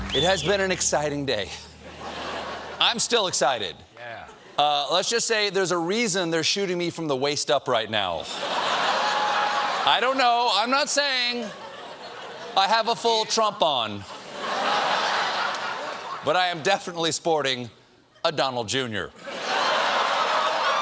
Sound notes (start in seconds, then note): 14.0 laughter